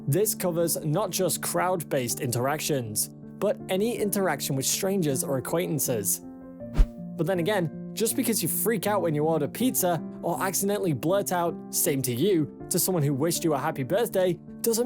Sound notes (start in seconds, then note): 6.7 screen swishes